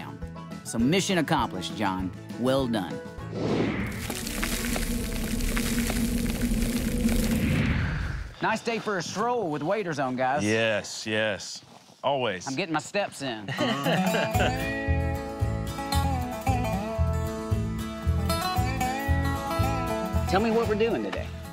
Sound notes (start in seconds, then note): 13.4 laughter